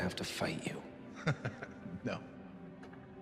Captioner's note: Thomas chuckling